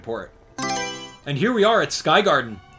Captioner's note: Mario Selection Sound